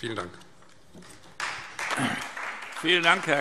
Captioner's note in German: Beifall Freie Demokraten